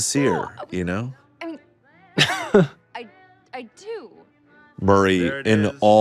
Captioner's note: Joe chuckles